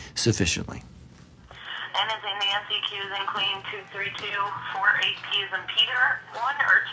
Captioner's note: woman on phone talking